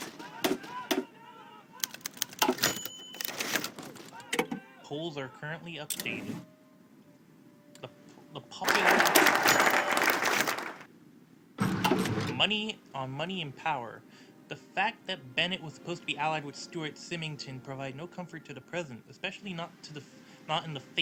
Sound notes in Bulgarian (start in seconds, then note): 8.6 Аплодисменти